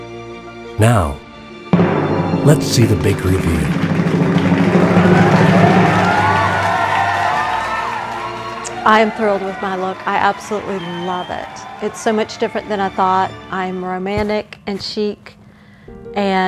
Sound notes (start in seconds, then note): 3.7 drum roll; 6.7 audience cheering